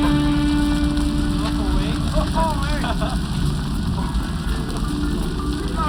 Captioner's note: kids laugh